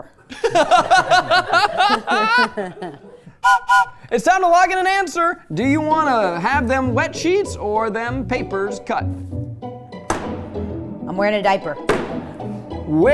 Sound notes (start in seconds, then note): 0.2 everyone laughing; 3.4 train whistle blowing; 9.0 light music; 10.0 lever banging